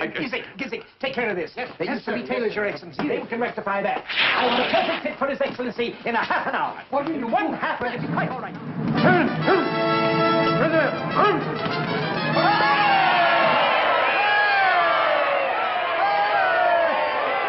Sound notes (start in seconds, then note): 9.2 soldier shouting; 12.6 crowd cheering